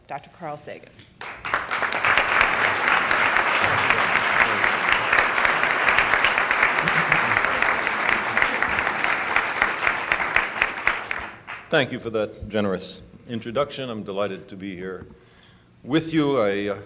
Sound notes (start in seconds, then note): 1.2 applause